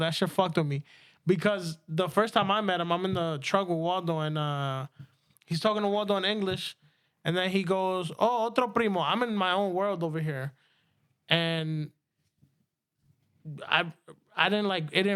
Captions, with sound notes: that shit fucked with me. Because the first time I met him, I'm in the truck with Waldo and he's talking to Waldo in English and then he goes, oh, (Speaking In Foreign Language) I'm in my own world over here. And I didn't like, it